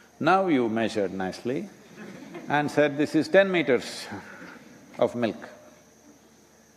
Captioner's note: laughter